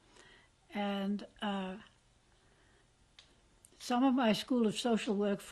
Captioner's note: pauses for 3 seconds